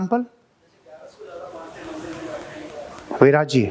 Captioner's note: chattering